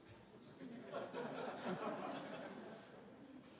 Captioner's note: laughter